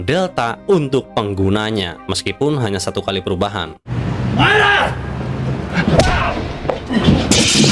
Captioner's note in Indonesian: berteriak